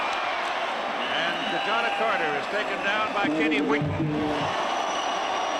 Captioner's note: laughs